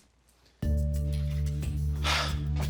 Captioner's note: sighs